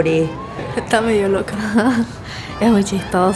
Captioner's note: laughter